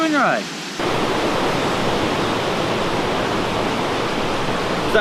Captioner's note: rushing water